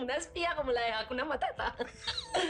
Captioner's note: Risas